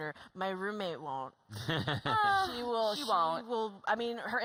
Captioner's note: laughter